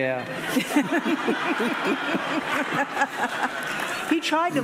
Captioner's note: audience laughing